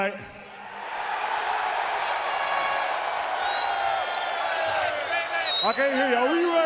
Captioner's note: crowd cheering